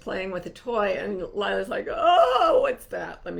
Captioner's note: moaning